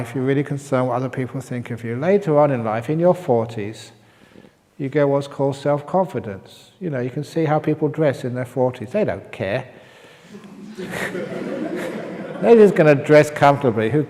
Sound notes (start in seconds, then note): 10.2 laughter